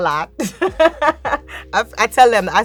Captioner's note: laughing